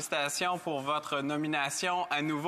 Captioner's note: speaking French